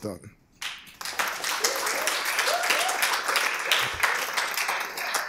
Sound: applause

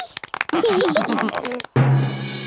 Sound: clapping, laughing

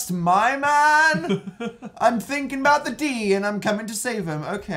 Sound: laughs

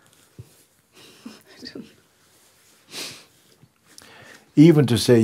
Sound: laughs

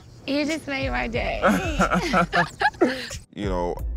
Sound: both laugh

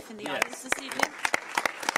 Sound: applause

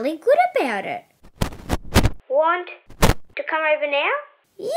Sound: crackle!

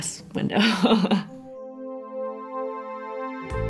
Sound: laughs

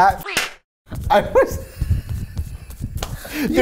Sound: slapping; laughs

